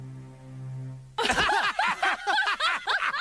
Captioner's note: laughter